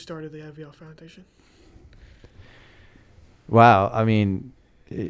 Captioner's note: chuckle